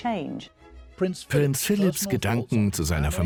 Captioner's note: voiceover